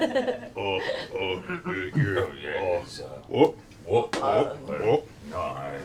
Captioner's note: Grog voice